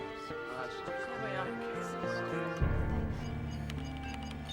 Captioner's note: people chattering